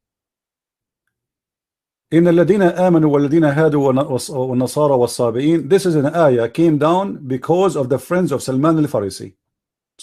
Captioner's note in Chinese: 念阿拉伯语